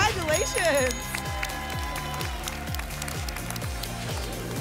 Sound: applause and cheering cont; whoosh

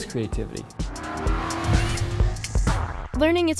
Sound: car engine roaring

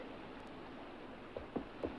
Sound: shoes clopping

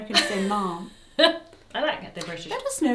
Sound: laughs

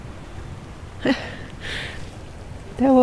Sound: laughs

